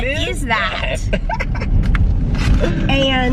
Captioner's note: laughing